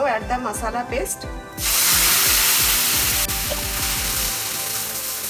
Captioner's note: loud sizzling